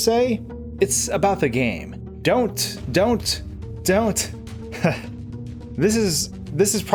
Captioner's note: laughing